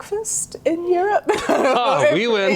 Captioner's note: laughing